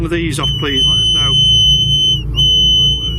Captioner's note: energy detector device beeping and whistling